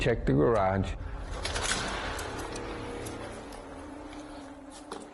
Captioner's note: dramatic music; door latch clicking